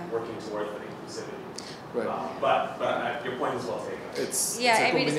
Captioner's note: voice fades